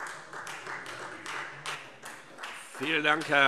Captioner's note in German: Beifall Freie Demokraten